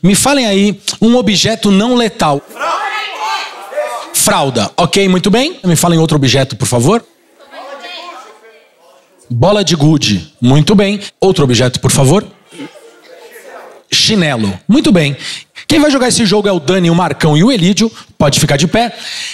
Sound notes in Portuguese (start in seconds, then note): 2.2 plateia dá sugestões; 6.7 plateia dá sugestões; 12.2 plateia dá sugestões